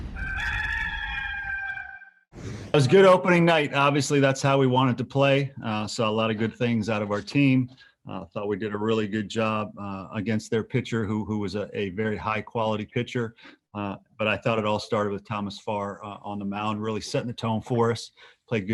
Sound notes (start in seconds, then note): 0.1 cock crowing